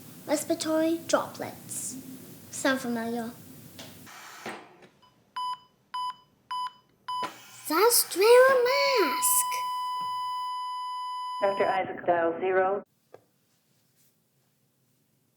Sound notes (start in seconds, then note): 11.6 woman's voice over an intercom: "Dr. Isaac dial zero."